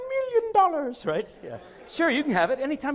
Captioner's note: audience laughs